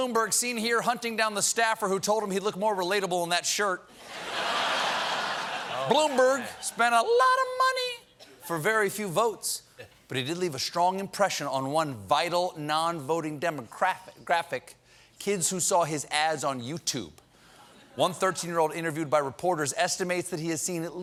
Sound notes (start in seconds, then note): 7.9 laughter